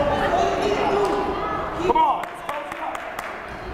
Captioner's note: yelling